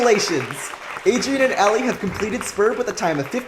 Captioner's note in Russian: Аплодируют зрители